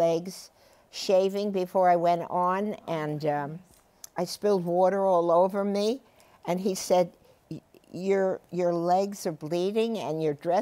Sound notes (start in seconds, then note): none